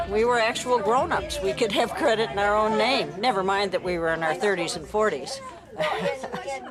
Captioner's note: laughs